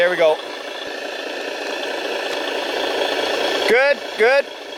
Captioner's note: motor chugging